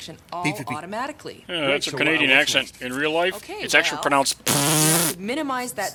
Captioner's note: makes pppffff noise